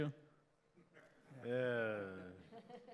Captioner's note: laughter